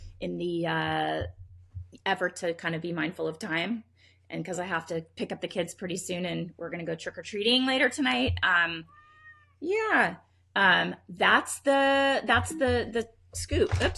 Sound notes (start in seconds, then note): 8.8 cat meows